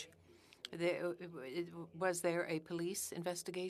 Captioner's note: speaking French